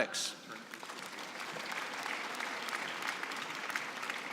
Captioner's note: applause